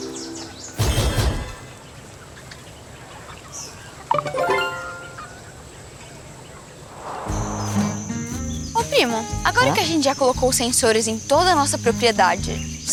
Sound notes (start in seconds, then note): 0.1 birds; 0.1 wind noises; 1.6 birds; 4.1 notification